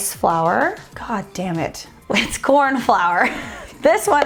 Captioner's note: laughs